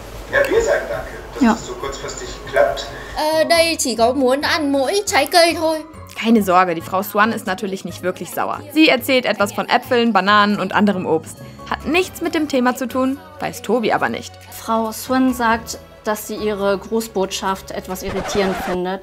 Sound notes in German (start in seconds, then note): 3.1 Sie spricht Vietnamesisch